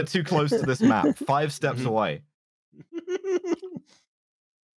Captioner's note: giggles